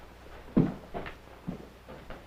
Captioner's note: speaking in foreign language